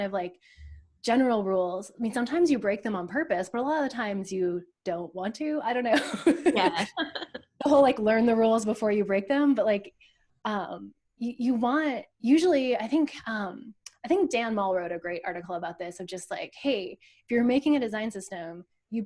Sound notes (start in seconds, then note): 6.0 laughs